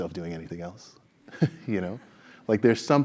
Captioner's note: laugh